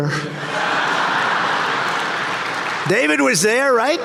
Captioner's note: audience laughing